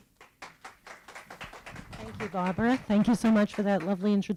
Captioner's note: applause